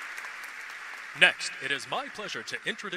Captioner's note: applause